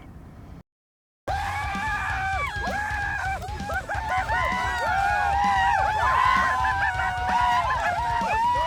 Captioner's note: screaming